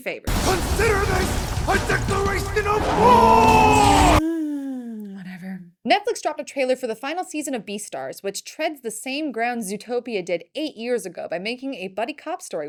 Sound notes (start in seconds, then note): 3.9 sigh